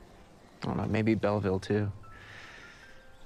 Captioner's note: breathing deeply